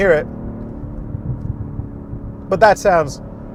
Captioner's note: car sputtering